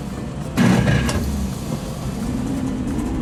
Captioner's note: engine starting